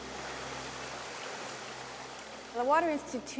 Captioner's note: sound of water rushing over rocks